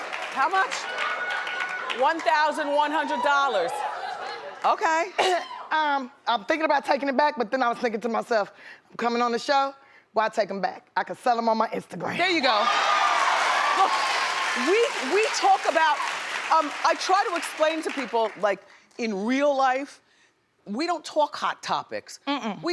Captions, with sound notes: $1100. Okay. I'm thinking about taking it back, but then I was thinking to myself, I'm coming on the show, why take them back? I can sell them on my Instagram. There you go. (cheering and applauding) We talk about, I try to explain to people like in real life, we don't talk hot topics.